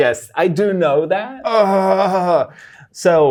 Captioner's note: groans